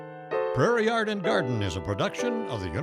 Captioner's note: soft instrumental music; voiceover